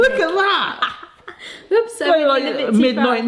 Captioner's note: laughing